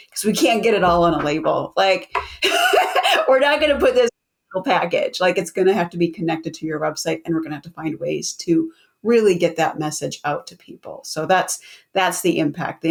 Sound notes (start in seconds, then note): 2.2 laughs